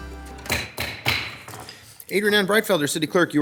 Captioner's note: gavel thuds